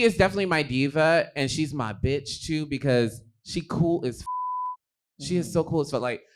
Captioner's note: beep